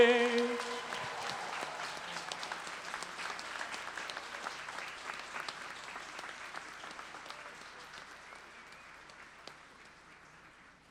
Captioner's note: applause